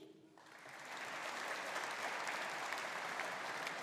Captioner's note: audience applauding